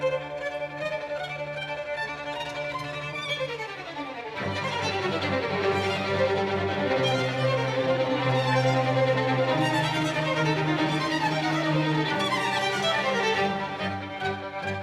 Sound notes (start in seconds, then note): none